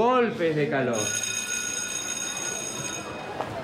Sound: bell rings

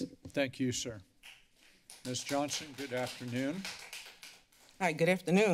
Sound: applause

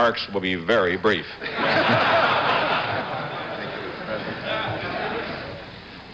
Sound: laughter

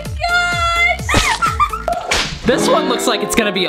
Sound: laughs

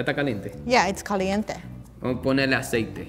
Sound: speaking in foreign language

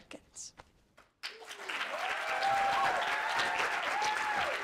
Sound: audience applauding

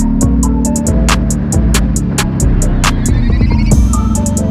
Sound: engine roaring

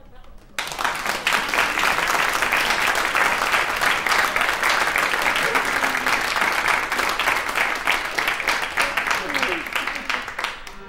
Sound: applause

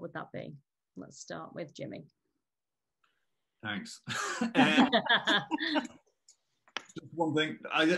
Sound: laughter

